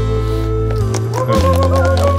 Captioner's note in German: Jubel, Applaus